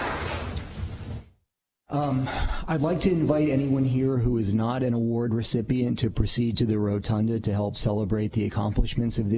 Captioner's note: applause